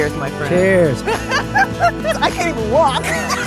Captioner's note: laughs